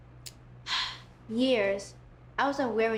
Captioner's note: sighs